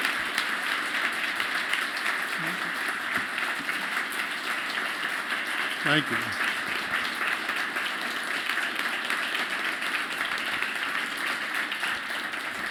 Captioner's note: applause